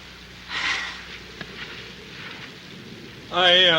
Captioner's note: Marcia sighs